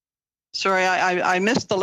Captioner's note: speaking French